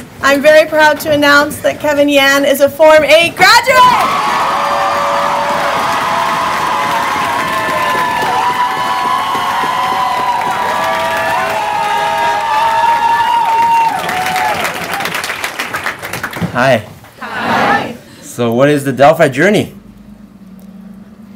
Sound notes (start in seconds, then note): 4.1 cheering